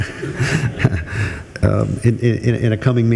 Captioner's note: group laughs